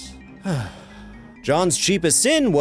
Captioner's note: sigh